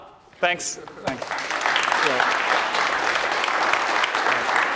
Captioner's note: applause